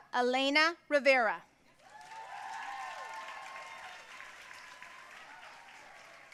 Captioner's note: audience cheering and applauding